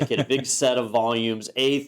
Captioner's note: laugh